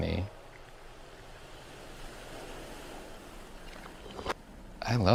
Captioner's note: waves crashing